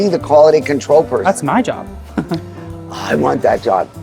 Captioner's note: chuckles